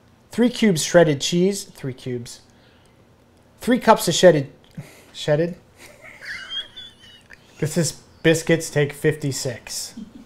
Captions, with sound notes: - Three cubes of shredded cheese, three cubes. Three cups of shedded, shedded? (laughs) This is Biscuits, take 56.